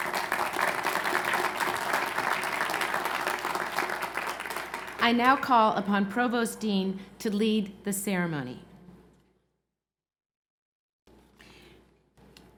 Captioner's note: applause